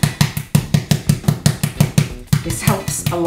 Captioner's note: slapping